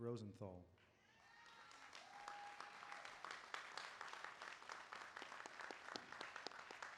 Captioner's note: applause